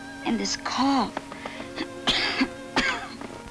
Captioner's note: coughs